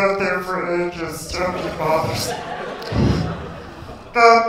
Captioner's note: laughter